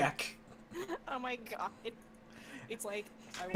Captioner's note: laughing